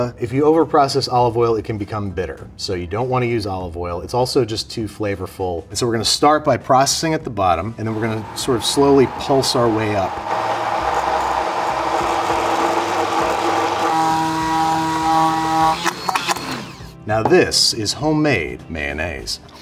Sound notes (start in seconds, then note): 10.3 blender whirring